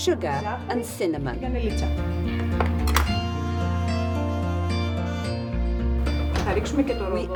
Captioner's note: woman speaking Greek